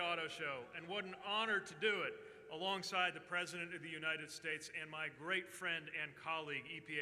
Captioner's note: cheers